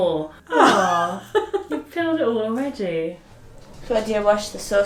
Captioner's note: laughing